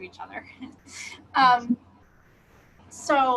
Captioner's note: laughs